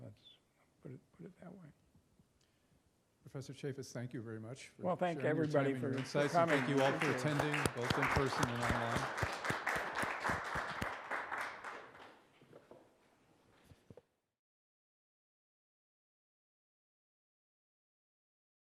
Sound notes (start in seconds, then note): 9.9 applause